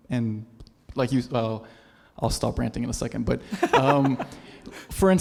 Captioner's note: laugh